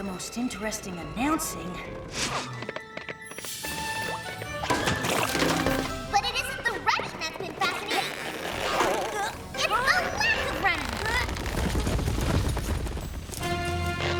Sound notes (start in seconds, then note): 11.6 grunting